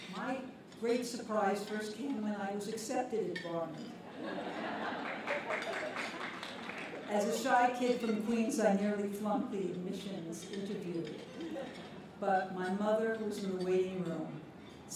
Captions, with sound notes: My great surprise first came when I was accepted at Barnard. [LAUGHTER] As a shy kid from Queens, I nearly flunked the admissions interview. But my mother, who was in the waiting room,